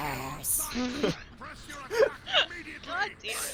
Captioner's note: laugh